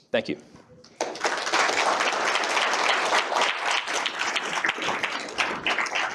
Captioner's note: applause